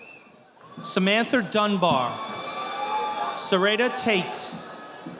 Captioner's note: audience applauding